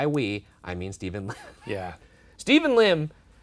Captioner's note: laughing